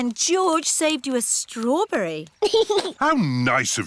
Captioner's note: giggles